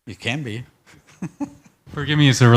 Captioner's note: laughs